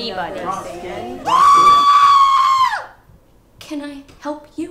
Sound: shrill scream

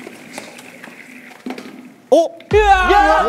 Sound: clatter

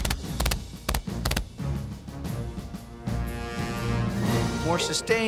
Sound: gun shots

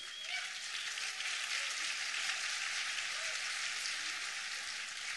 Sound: applause

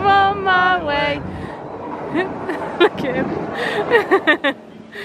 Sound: laughs

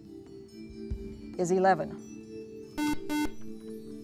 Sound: buzzer

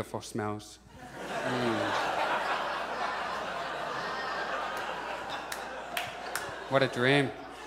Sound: audience laughs

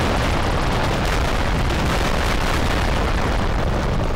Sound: lots of explosions

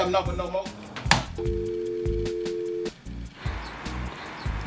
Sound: engaged tone

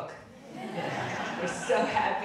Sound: audience laughing

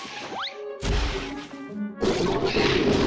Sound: growling, clattering

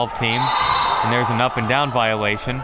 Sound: whistle

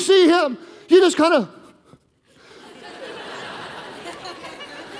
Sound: congregation laughing

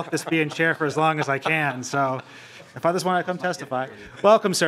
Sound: laughing

